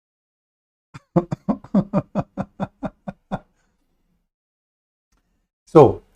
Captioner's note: Ketawa